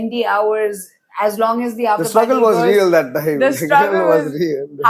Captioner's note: laughs